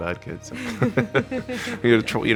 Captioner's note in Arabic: الوالدان يضحكان